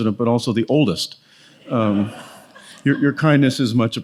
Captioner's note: audience laughs